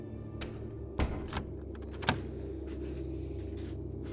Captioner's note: door opens and shuts